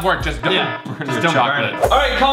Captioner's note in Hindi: अलार्म